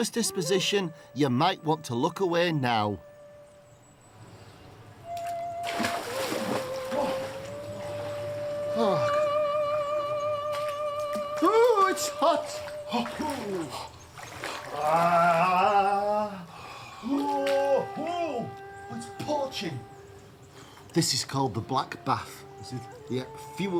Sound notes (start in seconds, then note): 8.6 groans; 14.4 gasps